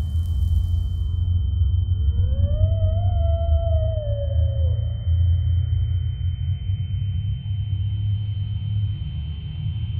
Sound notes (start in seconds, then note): 1.1 muffled screaming